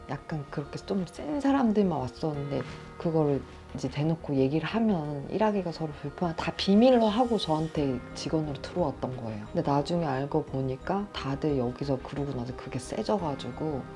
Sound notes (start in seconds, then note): none